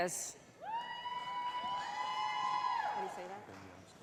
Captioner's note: cheering